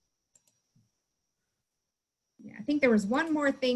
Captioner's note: mouse click